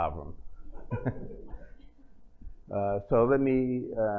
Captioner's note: laughter